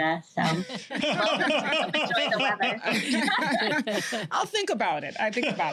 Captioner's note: laughter